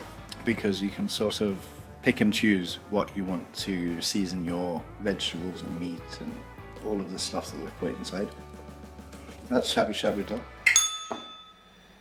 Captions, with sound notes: Because you can sort of pick and choose what you want to season your vegetables and meat and all of the stuff that we put inside. That's shabu-shabu done. [bell rings]